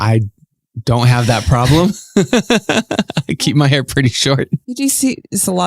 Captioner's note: laughs